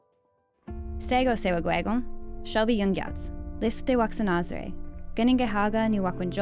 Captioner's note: speaking Indigenous language